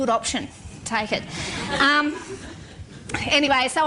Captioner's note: laughter